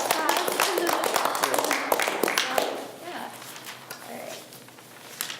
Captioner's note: group applauds